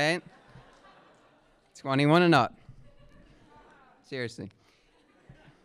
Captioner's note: laughter